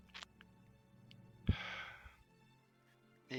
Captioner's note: none